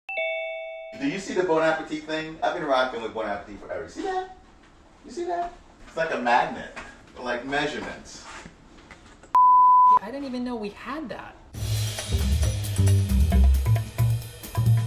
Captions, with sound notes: [doorbell ringing] - Do you see the bon appetit thing? I've been rocking with bon appetit forever, you see that? You see that? It's like a magnet, but like measurements. [beeping sound] - Yeah, I didn't even know we had that. [upbeat jazz music]